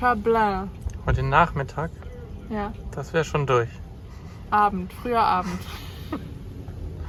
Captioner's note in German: Lachen